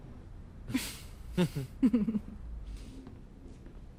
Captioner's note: risas